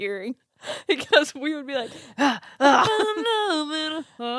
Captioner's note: huffing